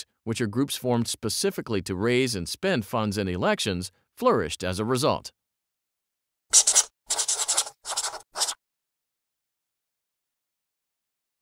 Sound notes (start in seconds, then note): 7.0 scratchy pencil writing